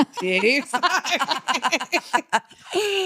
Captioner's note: laughing